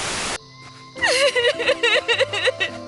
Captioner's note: crying